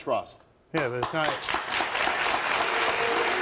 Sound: applauding

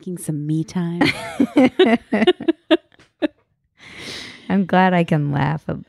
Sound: laughing

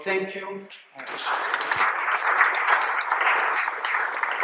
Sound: applause

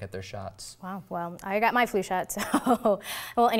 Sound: chuckles

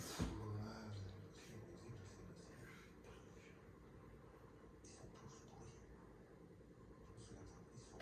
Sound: TV sound

